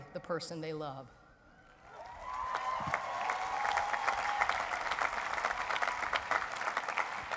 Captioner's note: crowd cheers